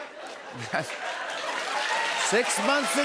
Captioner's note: cheers and applause